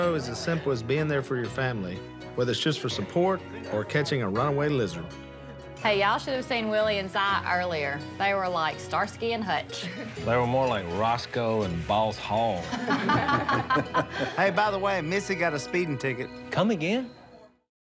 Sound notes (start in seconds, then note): 9.6 laughs; 12.6 laughter